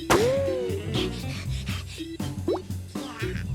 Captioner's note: Milo whimpers; Milo pants; Tucker coos